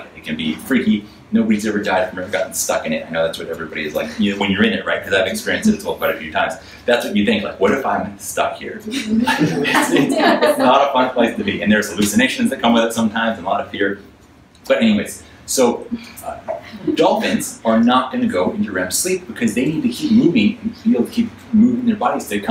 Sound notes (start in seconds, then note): 9.0 audience laughs